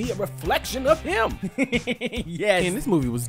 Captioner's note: chuckles